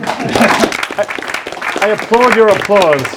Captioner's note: audience applauds